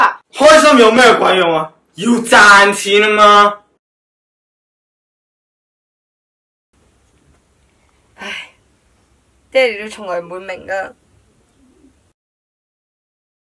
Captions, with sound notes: Happy for what, she needs to earn money! (sigh) Dad will never understand.